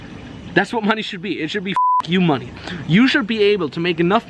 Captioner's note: beep